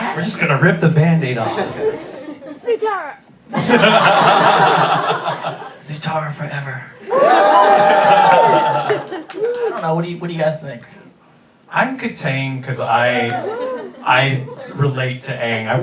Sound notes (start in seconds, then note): 3.5 everybody laughing; 7.0 cheering